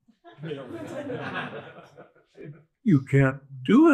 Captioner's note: audience laughs